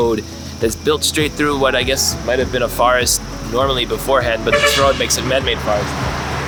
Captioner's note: bus honking